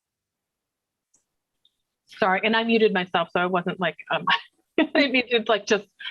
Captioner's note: laughter